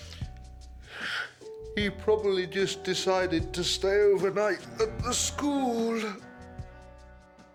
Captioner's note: yawning